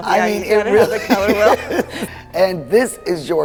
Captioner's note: laughing